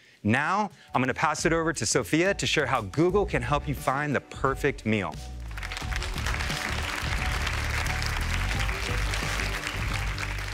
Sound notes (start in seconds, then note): 5.4 applause